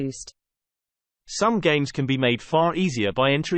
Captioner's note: british male voice